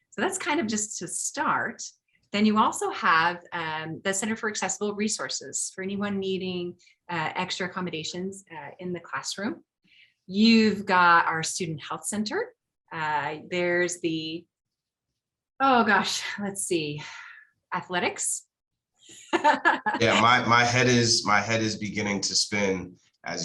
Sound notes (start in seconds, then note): 17.5 laughing